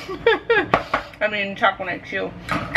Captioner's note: chuckling